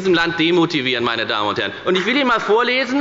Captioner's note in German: Beifall bei der FDP